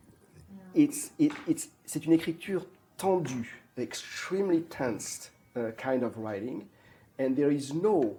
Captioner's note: french